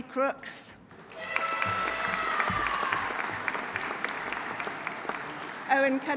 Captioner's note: audience applauding; audience cheering